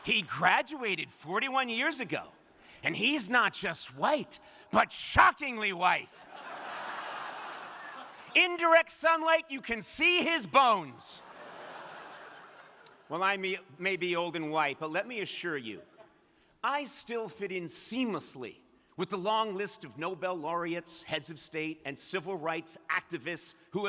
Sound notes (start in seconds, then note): 6.2 crowd laughing; 11.2 crowd laughing